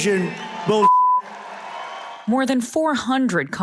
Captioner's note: cheering